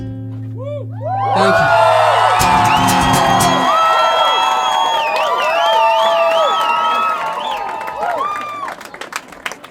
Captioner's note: applause